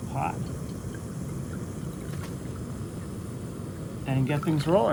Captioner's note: burner hissing; water pouring